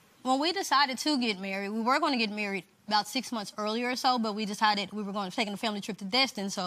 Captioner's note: none